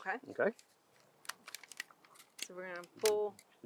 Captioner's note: bucket rattling